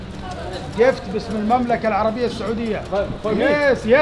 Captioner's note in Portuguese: Falas em árabe